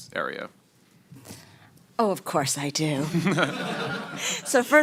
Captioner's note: laughter